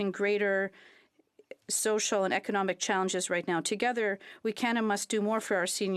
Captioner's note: speaking French